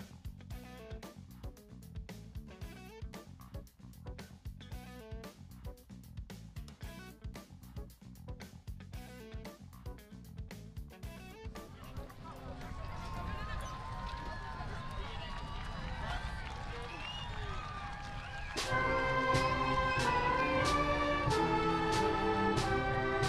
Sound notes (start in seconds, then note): 16.8 crowd cheers; 17.8 band plays